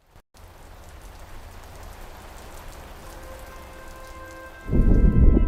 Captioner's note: raindrops falling